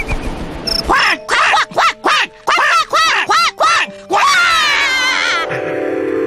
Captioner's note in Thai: เสียงนก